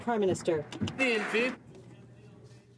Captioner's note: some Applause